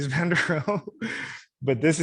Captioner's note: laughing